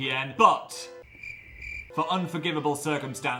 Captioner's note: crickets chirping